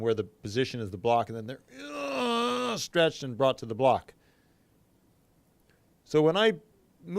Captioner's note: grunts